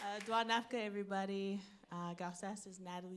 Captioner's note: audience applauds; speaking foreign language